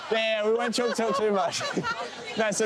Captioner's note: laughing